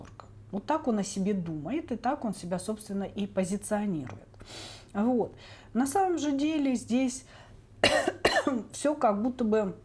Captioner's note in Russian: кашель